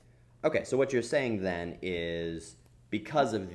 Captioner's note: voiceover